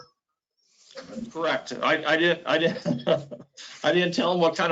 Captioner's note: laughs